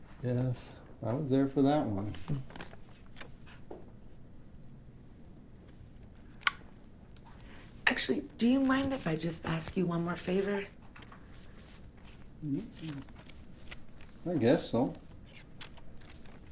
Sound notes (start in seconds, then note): 2.1 pages turning; 3.3 camera click